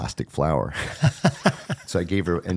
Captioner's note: both laughing